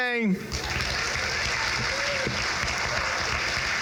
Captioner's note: crowd claps